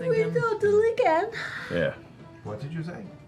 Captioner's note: yawning